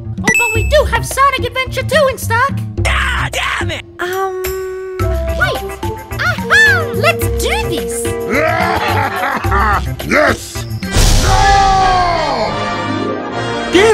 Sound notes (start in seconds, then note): 8.2 laughing